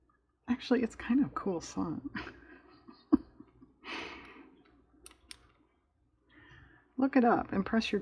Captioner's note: laughs